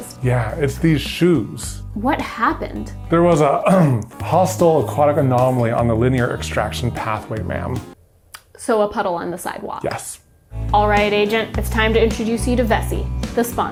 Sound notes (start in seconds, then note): 3.7 clears throat